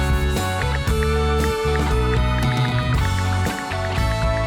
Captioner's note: ticking